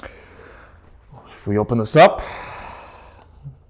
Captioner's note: sighs